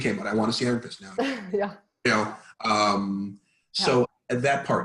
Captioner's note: laughing